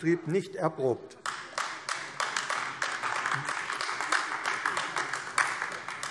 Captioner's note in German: Beifall AfD